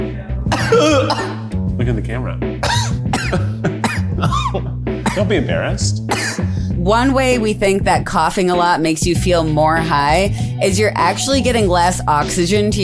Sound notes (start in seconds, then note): 0.5 Eugene coughing; 2.6 Eugene continues coughing